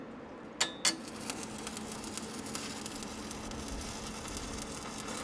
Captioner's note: welder sputtering